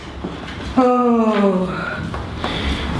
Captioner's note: sigh